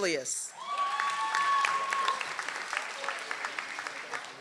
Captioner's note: audience applauds